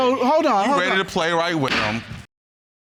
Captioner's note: gavel bangs